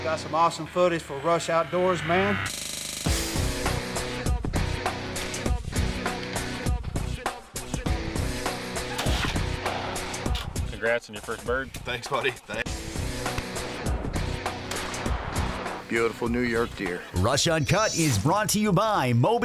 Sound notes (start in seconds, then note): 14.6 gunshot rings